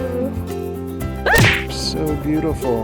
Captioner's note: exclaims